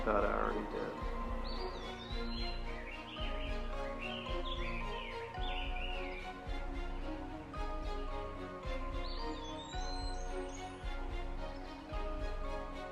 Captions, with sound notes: - I thought I already did. (birds chirping) (dramatic music)